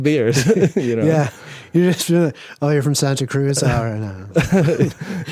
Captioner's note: laughs